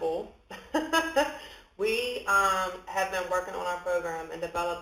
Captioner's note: laughs